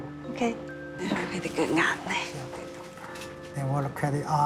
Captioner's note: speaking Chinese dialect